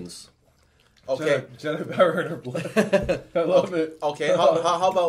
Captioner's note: laughing